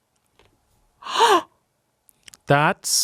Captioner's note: gasps